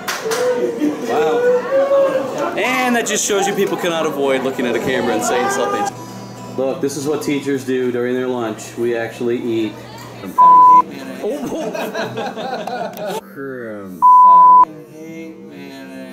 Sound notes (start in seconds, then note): 11.2 laughter